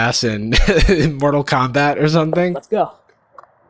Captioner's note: chuckles